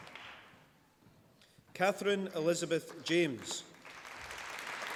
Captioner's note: applause